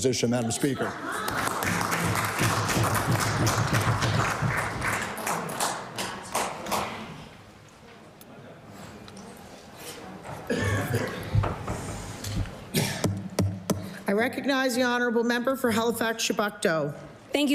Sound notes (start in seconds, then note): 4.4 applause